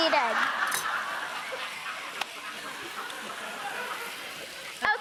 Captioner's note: audience laughing